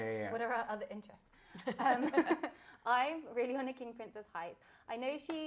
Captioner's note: laughter